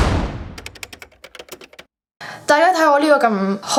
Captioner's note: typing sounds for "subscribe" and "like & share"